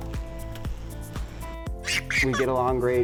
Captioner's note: child chuckling